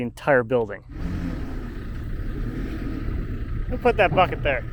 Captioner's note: truck engine revving